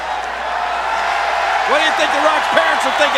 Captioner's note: crowd cheering